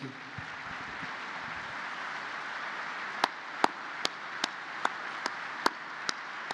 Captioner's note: applause